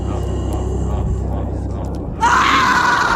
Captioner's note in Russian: стон